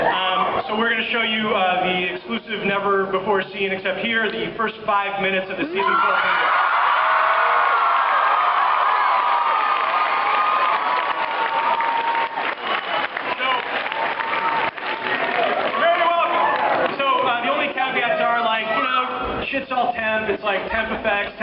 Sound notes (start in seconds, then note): 7.6 cheers, applauds; 14.7 applauds